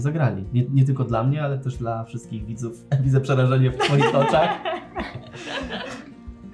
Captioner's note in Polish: śmiech